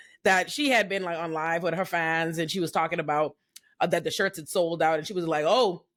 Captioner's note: none